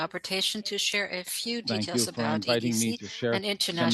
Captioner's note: speaking French